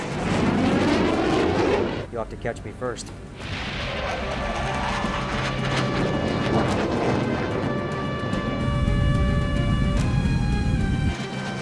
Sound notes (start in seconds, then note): 0.0 aircraft whooshing; 3.2 aircraft whooshing; 3.2 intense, dramatic music